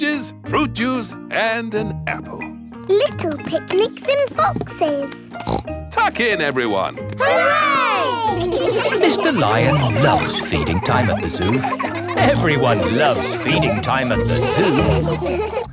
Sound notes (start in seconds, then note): 5.3 snorts